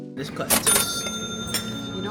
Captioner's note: cash register dings